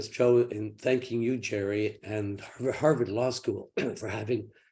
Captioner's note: clears throat